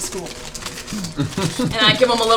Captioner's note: laughs quietly